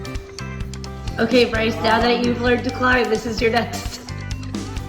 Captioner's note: laughing